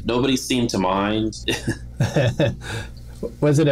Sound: laughter

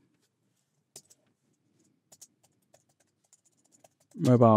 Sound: keyboard typing

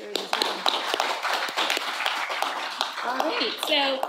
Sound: audience applauding

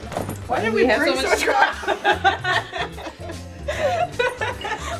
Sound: girls laugh; both laugh

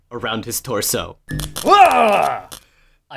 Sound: small sounds of electricity

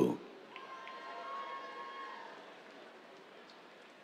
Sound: cheers

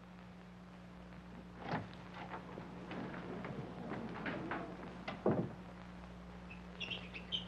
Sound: lock clicking; door banging

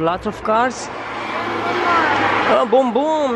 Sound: car sound

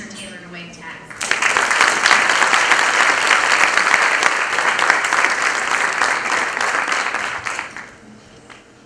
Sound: applause

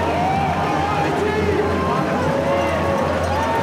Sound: cheering

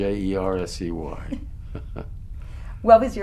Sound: laughs

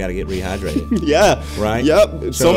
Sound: laughs

